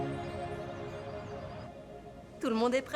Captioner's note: birds chirping